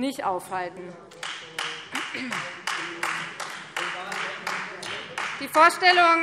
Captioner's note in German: Beifall Freie Demokraten